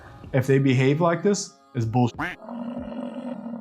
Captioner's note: duck quacking; buffalo grunting